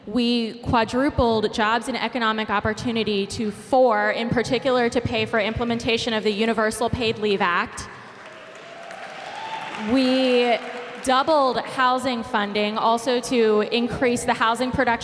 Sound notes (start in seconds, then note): 7.8 applause